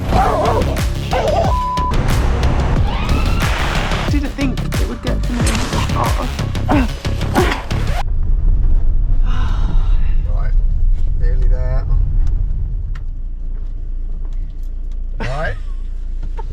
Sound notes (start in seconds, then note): 1.1 dog barking; 2.0 garbage truck; 2.8 police siren; 3.5 rain; 9.2 nervous sigh; 16.3 nervous laugh